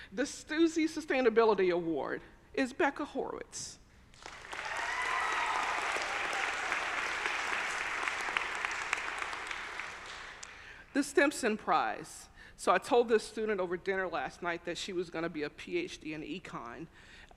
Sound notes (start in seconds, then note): 4.1 audience applauding; 4.3 audience cheering